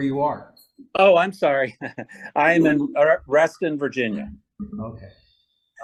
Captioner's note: laughs